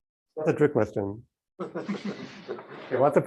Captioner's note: laughter